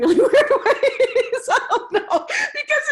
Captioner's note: laughs